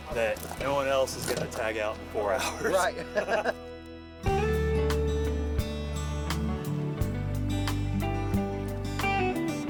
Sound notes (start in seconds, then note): 2.4 laughing; 4.4 gentle music